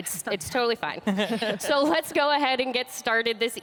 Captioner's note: laughs